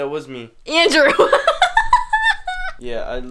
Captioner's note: laughs